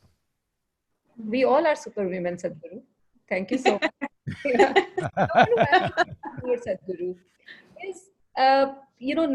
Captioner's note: laughter